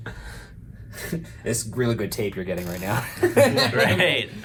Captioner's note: laughs